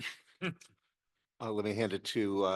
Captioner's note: chuckles